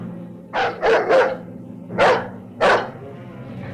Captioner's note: dog barking